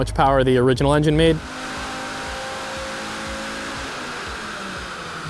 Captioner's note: car engine roaring